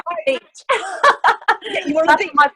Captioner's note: laughing